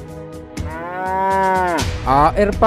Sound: the cow is mooing

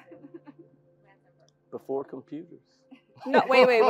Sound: laugh

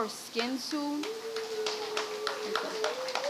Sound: audience claps and cheers

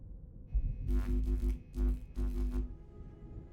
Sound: flickering static sound

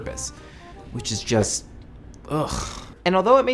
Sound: groans

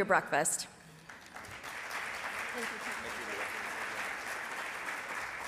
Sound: audience applauds

